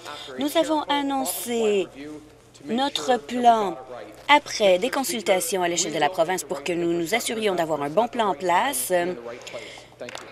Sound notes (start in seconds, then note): none